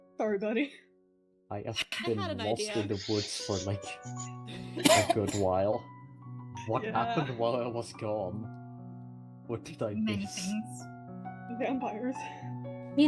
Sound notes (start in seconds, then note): 4.5 STONE coughs